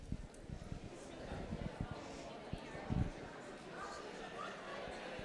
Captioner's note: crowd chatter